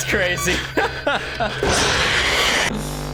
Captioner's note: laughs